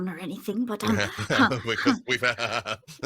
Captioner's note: laughing